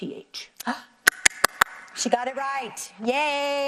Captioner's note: gasps, claps